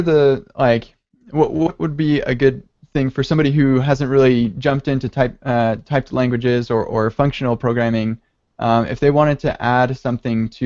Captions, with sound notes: - (stuttering) What would be a good thing for someone who hasn't really jumped into typed languages or functional programming, if they wanted to add something